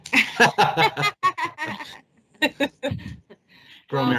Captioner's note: all laughing